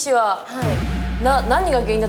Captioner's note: sob, sob